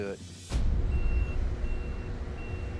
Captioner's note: beeping